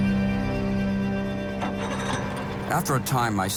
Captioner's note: boat engine revving